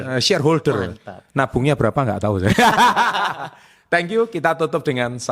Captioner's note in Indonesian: tertawa